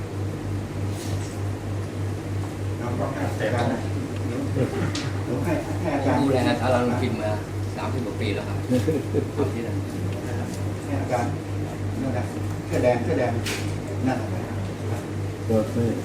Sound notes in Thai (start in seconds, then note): 4.7 พูดคุย; 12.7 พูดคุย